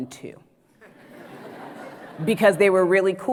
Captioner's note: audience laughs